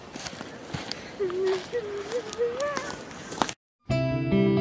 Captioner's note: nervous humming